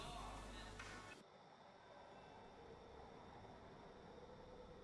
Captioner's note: pigeons cooing